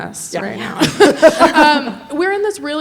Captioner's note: laughing